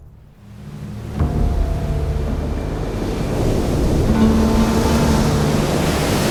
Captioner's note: light dramatic music; waves crashing